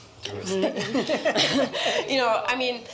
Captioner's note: laughter